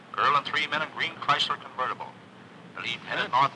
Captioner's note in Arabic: تعليق صوتي